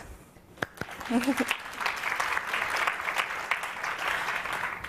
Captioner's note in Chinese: 掌聲